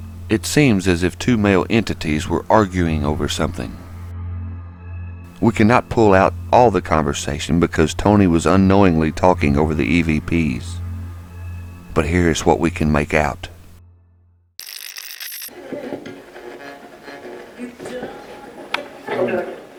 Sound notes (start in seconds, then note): 15.6 radio scratching